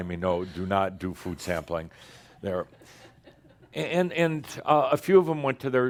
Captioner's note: a few chuckles